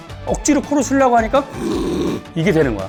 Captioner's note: snore